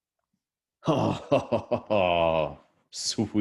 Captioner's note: laughing